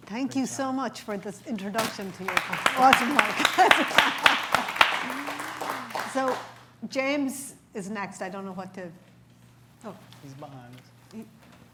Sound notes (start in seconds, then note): 6.0 applause